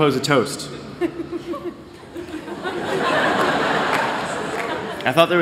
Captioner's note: laughter